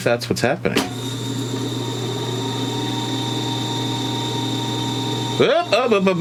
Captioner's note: tape recorder whirring